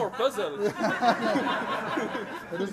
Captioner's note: laughter